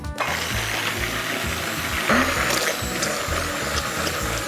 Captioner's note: hand mixer whirs